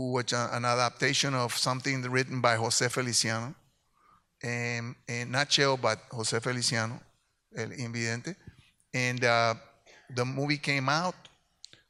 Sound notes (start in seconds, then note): 7.4 speaks in Spanish